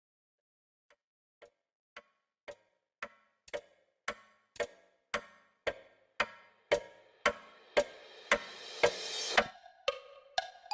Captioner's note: A Clock Ticks